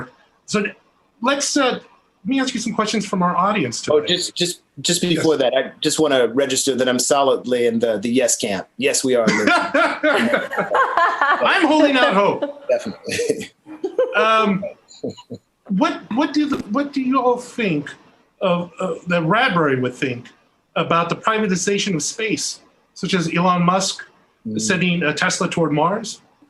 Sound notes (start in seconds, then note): 9.3 everyone laughing; 13.5 chuckles softly